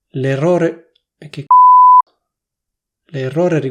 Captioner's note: beep